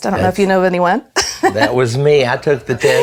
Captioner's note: laughs